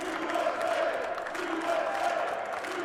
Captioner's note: cheers and applause